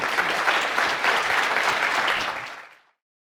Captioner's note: applause